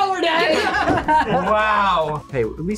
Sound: both laugh

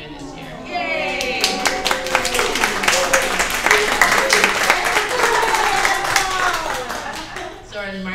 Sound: applause

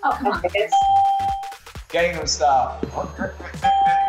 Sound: ding; ding

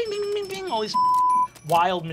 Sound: beeping

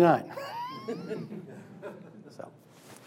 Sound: laughing

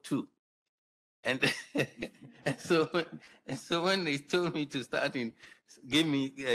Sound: laughs

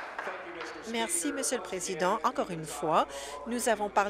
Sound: applause

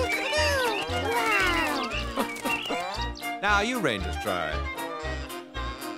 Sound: bird call

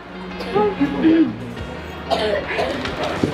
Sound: coughs

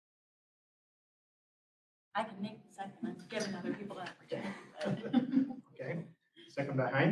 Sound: laughter

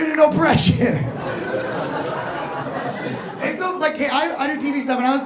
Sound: audience laughing

